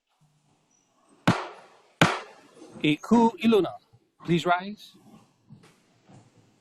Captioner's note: gavel bangs twice